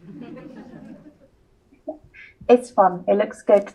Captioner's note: audience chuckles